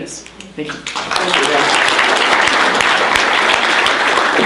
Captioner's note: applause